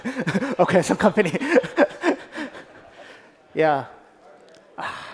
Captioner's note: laughs